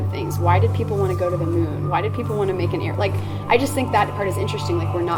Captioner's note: plane